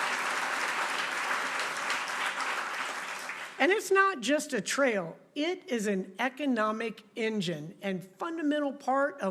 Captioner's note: applause